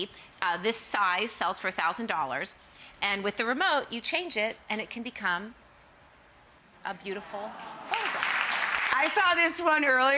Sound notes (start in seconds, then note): 7.6 audience gasps and applauds